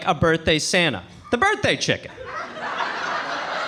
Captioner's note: audience laughing